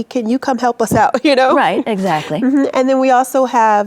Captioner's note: chuckles